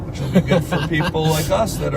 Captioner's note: laughs